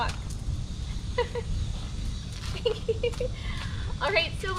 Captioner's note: giggling